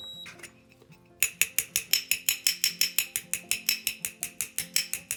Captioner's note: pot beeps; lid tapping